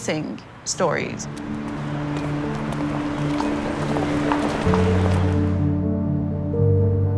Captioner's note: traffic humming; gentle music